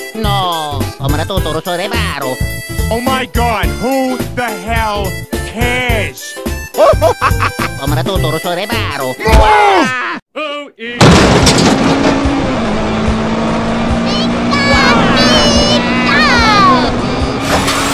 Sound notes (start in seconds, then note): 0.5 italian gibberish; 7.8 italian gibberish; 10.1 singing; 14.8 crying